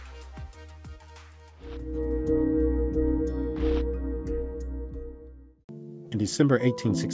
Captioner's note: chiming